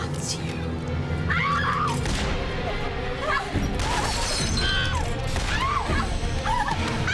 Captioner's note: screaming; gun shots booming